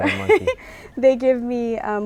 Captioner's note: laughs